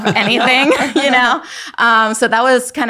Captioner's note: everyone laughing; laughing